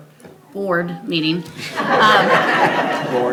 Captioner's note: attendees laugh